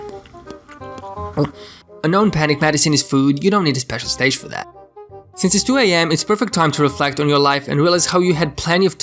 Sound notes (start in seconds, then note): 1.3 munching